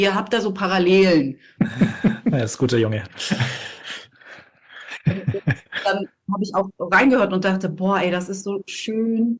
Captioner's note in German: gelächter